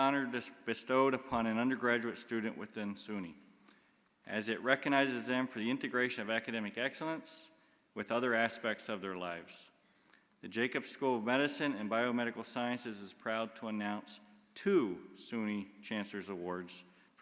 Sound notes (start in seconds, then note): none